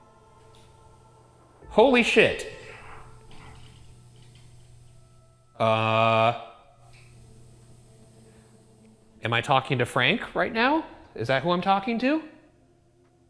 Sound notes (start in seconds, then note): 0.3 object clicks; 2.3 object knocks; 3.2 eerie music; 6.8 object clicks